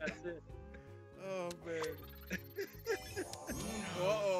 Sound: laugh; laugh

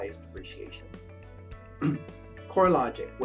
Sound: coughs

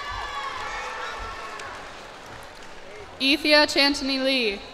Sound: cheers and applause

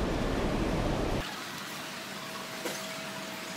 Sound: sped up video sounds

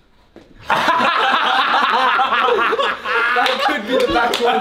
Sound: all laughing

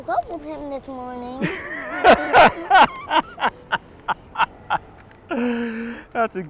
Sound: laughs

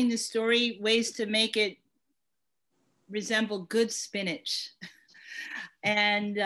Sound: laughs

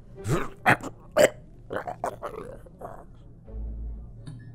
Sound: strangled Noises

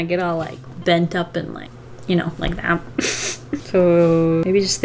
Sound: laughs

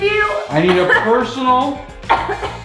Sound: coughs

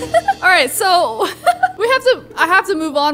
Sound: laughs

